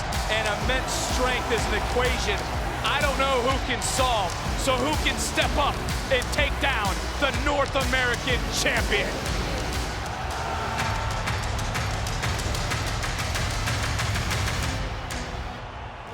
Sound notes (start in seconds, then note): 9.2 audience cheering; 9.2 upbeat music